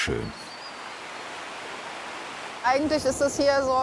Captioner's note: birds chirping, splashing